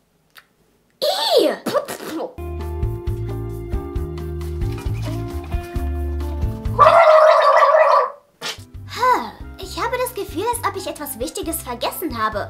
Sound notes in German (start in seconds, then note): 6.8 Sie gurgelt